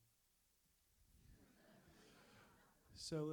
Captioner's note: audience laughs